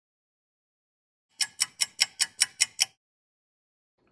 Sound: sound of a ticking clock

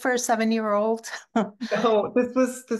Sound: chuckling

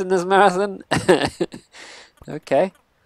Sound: laughs

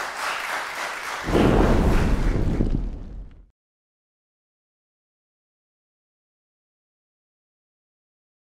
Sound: boom

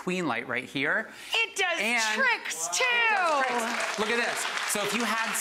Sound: people applauding

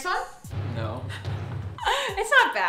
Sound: laughs

